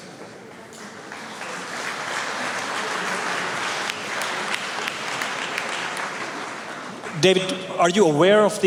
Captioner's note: applause